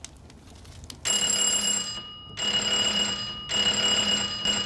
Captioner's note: doorbell rings